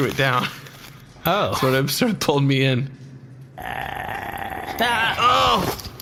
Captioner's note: growling